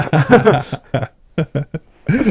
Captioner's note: both laughing